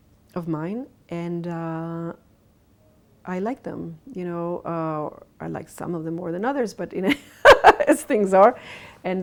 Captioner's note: laughs